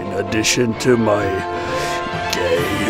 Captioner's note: inhale